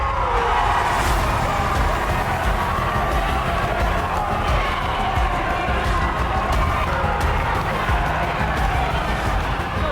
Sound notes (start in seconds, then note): 0.3 audience gasps; 1.9 audience shouting; 1.9 tense suspenseful music